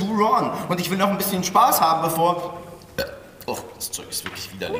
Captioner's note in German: rülpst